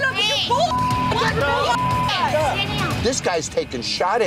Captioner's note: arguing